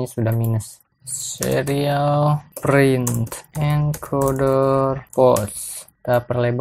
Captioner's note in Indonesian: typing code